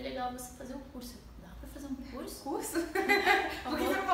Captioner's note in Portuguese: risos